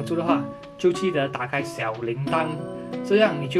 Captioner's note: notification